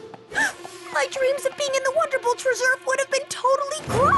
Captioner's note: gasp